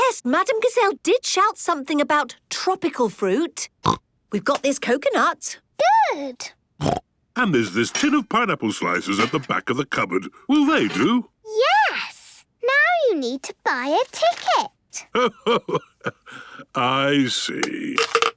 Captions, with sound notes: - Yes, Madame Gazelle did shout something about tropical fruit. (snorts) We've got this coconut. - Good. (snorts) - And there's this tin of pineapple slices at the back of the cupboard. Will they do? - Yes! Now you need to buy a ticket! - Ho-ho! I see!